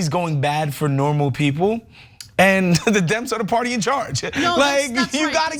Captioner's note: laugh